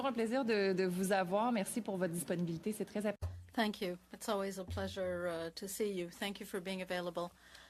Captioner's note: speaking French